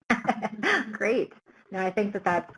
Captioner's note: laughs